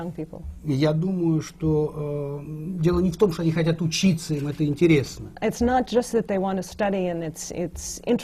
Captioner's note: foreign language not transcribed